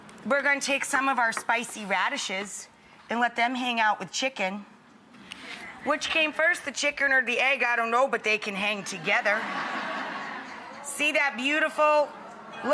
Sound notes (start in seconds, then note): 8.8 audience laughing